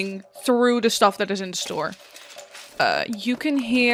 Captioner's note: crashing, clanking, and crunching